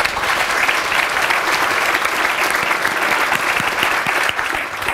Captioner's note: applause